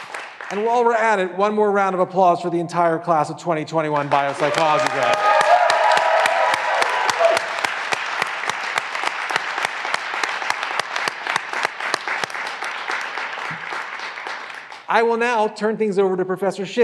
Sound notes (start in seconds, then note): 5.2 graduands cheering and applauding